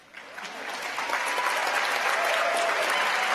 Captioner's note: applause